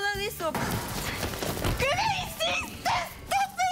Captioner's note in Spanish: Golpes